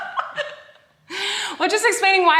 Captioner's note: both laughing